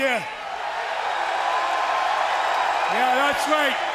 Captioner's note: crow cheering